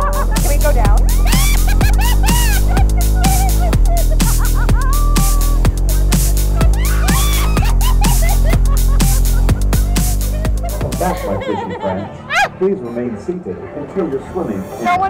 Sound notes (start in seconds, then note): 1.3 both girls laughing; 6.7 screams